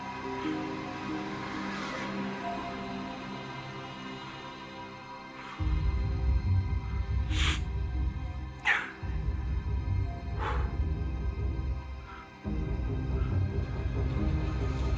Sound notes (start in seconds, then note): 7.3 Malik sniffles; 11.2 tense suspenseful music